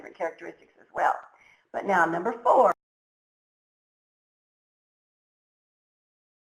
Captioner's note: audio drops out